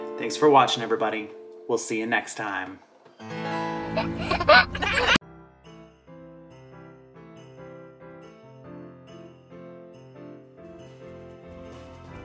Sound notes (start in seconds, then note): 3.2 guitar strumming; 3.8 laughing; 5.2 guitar strumming